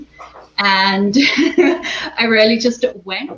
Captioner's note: chuckles